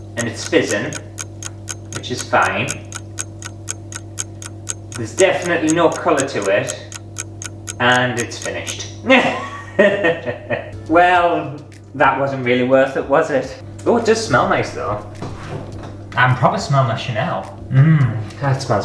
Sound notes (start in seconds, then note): 2.8 clock Ticking